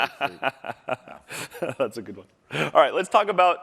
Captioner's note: laughter